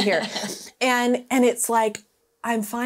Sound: laughing

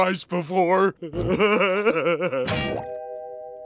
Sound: laughing

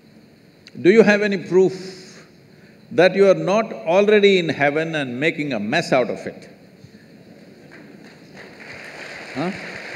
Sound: applause

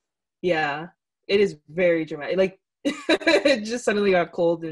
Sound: laughs

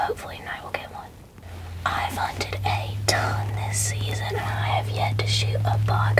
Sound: whispering

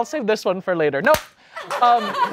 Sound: plate breaks

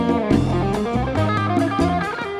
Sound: none

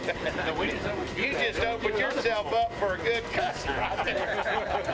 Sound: laughing

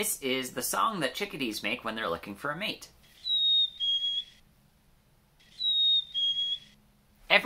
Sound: chickadee mating call

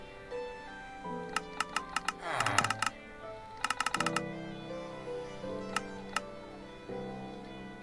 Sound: continuous GUI clicking

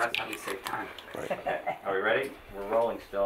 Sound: laughing

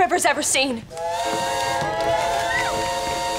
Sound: boat whistling

